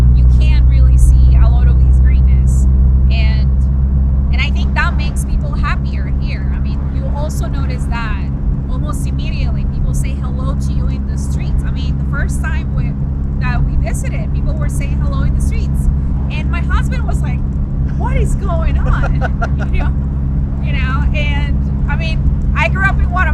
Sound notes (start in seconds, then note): 17.9 laughs